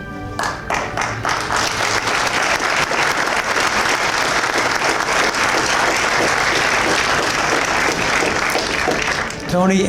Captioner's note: applause